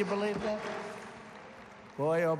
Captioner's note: applause